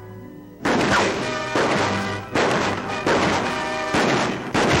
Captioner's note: gun shots